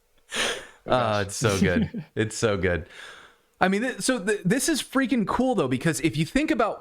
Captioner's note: laughter